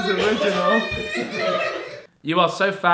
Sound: audience laughing

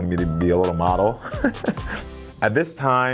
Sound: Karamo chuckling

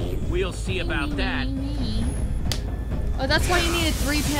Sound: Sabrina hums

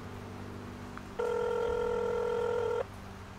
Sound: dialing

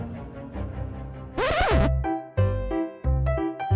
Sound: dramatic music; tape rewinding; bright whimsical music

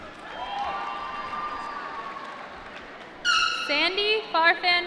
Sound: applause

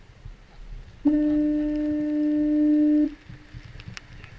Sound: foghorn

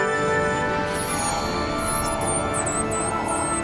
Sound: squeaking

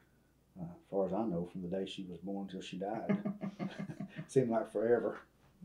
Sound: laughter

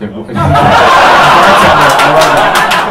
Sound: laughter

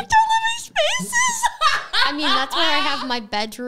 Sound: laughs

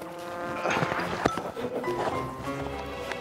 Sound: grunts

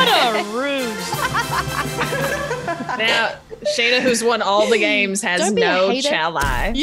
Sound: laugh

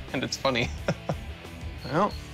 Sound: chuckling

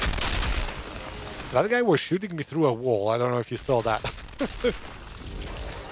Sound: laughs

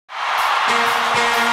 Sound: audience cheering; upbeat music

